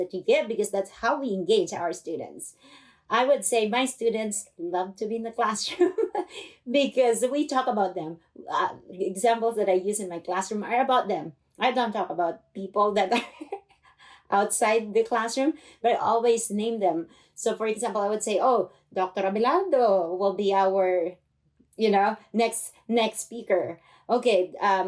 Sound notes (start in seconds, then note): 5.7 laughter